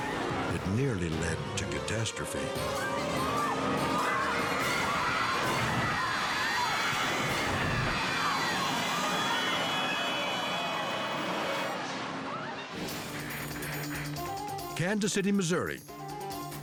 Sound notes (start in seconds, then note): 3.9 friend screams; 5.8 crowd screams; 12.7 tense music